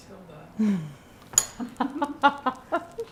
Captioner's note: laughing